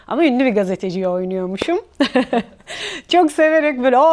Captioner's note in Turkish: kahkaha